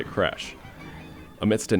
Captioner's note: carnival sounds